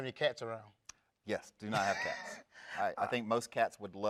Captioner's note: laughs